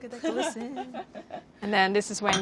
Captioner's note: laughter